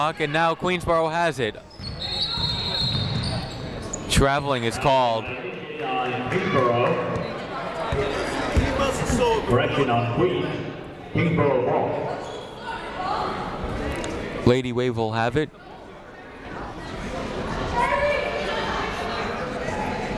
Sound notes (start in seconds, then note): 1.8 whistle tweeting; 5.5 muffled voice speaking over speaker; 8.8 people shouting in the crowd; 16.1 people shouting in the crowd